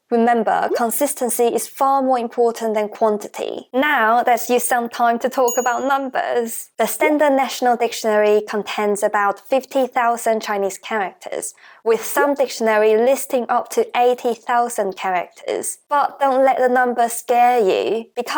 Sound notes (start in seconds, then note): 9.9 Mandarin